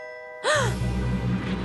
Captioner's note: gasp